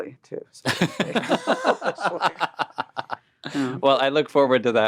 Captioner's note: all laughing